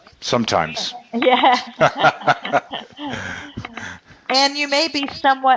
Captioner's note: laughing